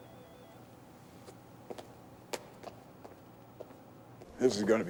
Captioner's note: footstep